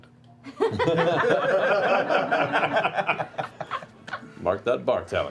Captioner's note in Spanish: risas